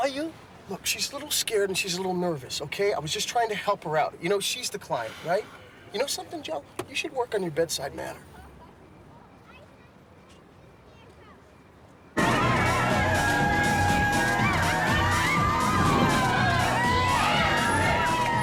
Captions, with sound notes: and nobody saw you? Look, she's a little scared, and she's a little nervous, okay? I was just trying to help her out. You know, she's the client, right? You know something, Joe? You should work on your bedside manner. (loud dance music playing, whooping) (loud shouting, whooping and chatter)